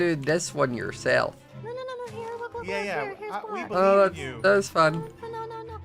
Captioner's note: quiet noises of protest